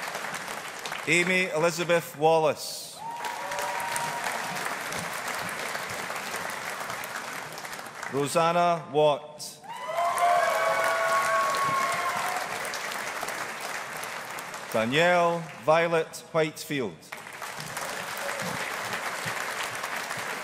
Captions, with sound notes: Amy Elizabeth Wallace. (AUDIENCE APPLAUDING) Roseanna Watt. (AUDIENCE APPLAUDING) Danielle Violet Whitefield. (AUDIENCE APPLAUDING)